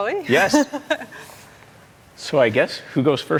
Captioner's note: giggling